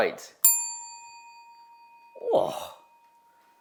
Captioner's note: object dings; host gasps